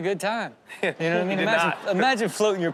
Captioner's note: audience laughs